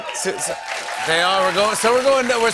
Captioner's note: cheers and applause